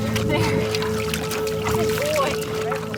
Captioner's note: water splashing